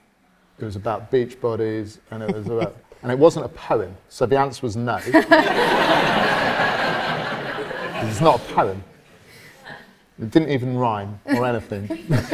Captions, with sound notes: It was about beach bodies, and it was about... and it wasn't a poem. So the answer was no. [AUDIENCE LAUGHS] 'Cause it's not a poem It didn't even rhyme, or anything.